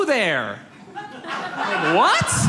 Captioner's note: audience laughs